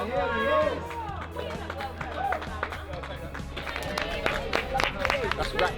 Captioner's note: cheers and applause